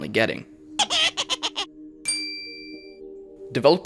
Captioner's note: intro Laugh